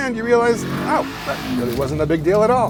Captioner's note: engine whirring